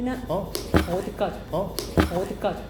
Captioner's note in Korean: 빡!